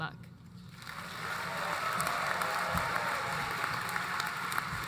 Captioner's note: applause